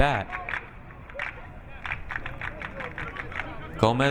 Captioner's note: crowd clapping